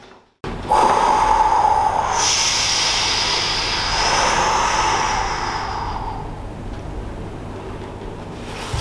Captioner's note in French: Bruit du vent qui souffle